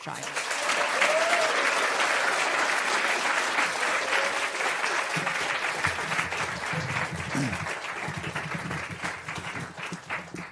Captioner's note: applause